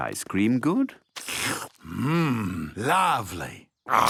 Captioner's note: slurps